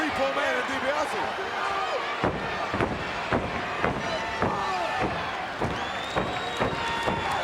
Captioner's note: crowd yelling; foot stomping